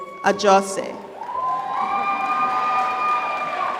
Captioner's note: applause